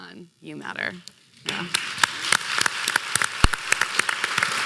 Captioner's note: applause